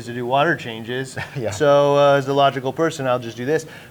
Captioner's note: chuckling